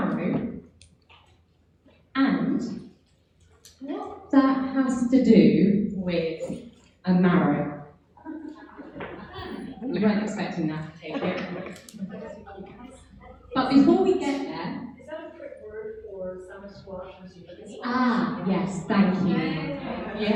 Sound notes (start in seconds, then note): 8.2 audience laughing; 12.0 audience chattering